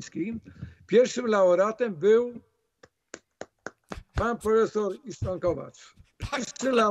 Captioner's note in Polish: oklaski